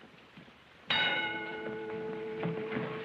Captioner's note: bell rings